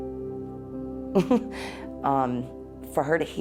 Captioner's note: chuckles